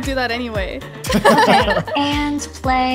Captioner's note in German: Gelächter